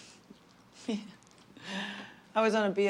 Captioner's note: laughing